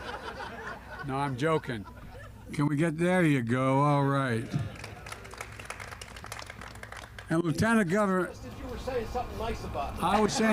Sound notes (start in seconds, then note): 0.0 laughter; 4.7 applause